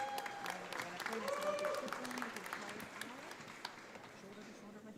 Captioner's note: audience applauding